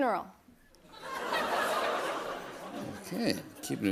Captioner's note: laughter